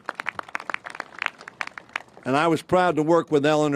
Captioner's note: applause